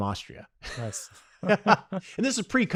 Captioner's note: both laugh